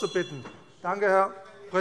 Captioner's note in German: Anhaltende Unruhe - Glockenzeichen